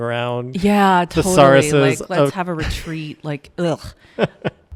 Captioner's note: chuckles; laughs